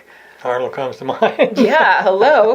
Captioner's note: laughs